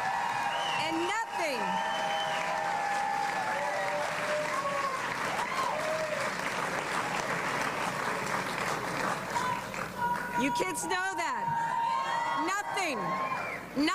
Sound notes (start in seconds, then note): 4.7 applause